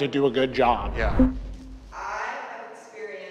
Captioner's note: whooshes